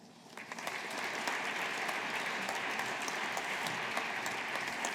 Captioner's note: audience applauding